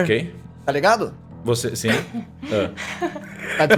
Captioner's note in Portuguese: risadas